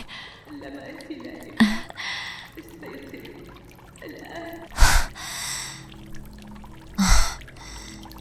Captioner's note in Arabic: ضحك; تنهّد; شهيق